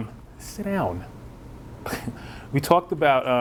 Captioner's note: laughs